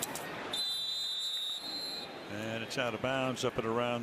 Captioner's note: whistle blowing